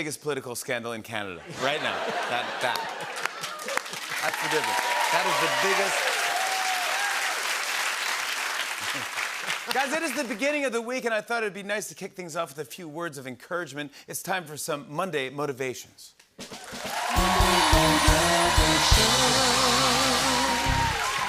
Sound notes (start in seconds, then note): 5.4 cheers and applause